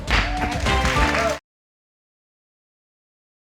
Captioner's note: all cheering